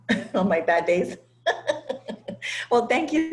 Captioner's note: laugh